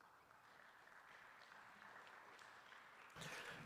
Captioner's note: applause